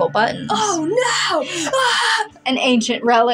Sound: dramatically

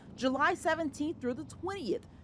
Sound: vehicle nats

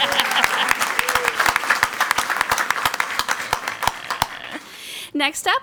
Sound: crowd clapping and cheering; woman giggling

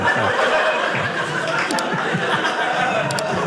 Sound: audience laughing

